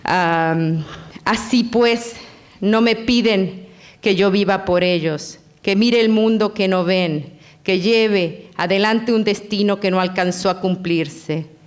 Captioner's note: foreign language